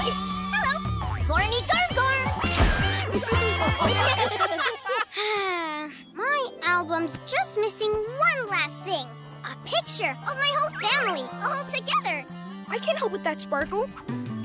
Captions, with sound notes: -Hello. -Gormy gorm gorm! [laughing] [sighing] My album's just missing one last thing. A picture of my whole family all together. I can't help with that Sparkle.